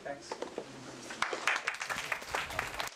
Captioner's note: applause